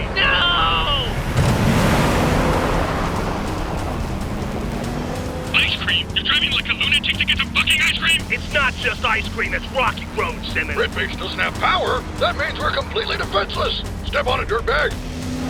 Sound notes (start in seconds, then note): 1.5 revs up